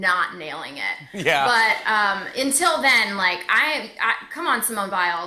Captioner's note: laughter